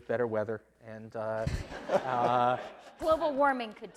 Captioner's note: laughing